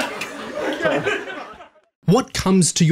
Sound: everybody laughs

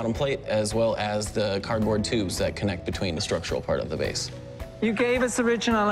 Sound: none

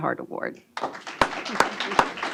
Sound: applause

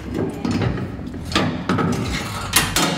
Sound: metal scrapping sounds

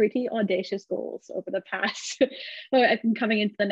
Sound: chuckles

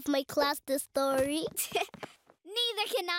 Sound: chuckles

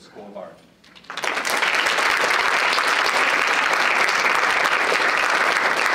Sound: audience applauding

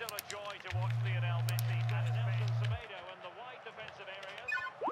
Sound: phone vibrates

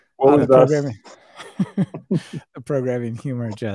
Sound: laughing

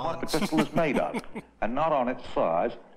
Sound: laughs

